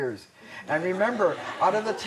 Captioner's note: laughter